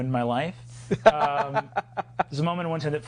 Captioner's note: laughing